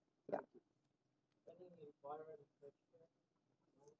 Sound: off microphone

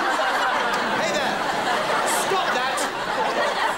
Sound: laughing

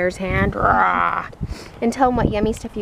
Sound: roars

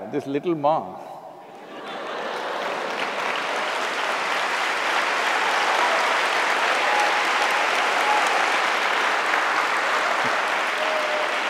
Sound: applause

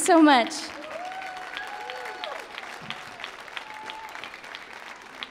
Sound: audience cheers

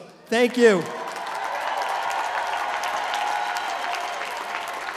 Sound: applause

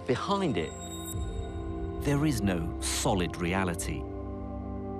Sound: voiceover

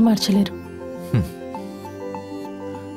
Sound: chuckles

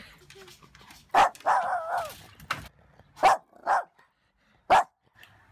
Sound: barking

